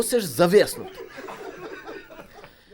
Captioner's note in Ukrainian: Сміх